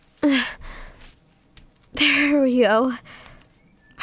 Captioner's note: sprinting on Ground